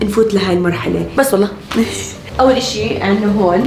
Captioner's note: chuckles